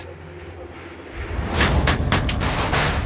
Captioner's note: machine-gunfire